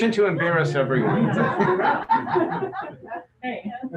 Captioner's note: laughter